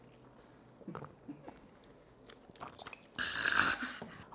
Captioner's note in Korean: 꼴깍